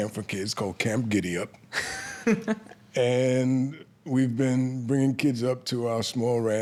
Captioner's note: laughs